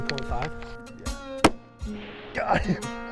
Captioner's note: gunshot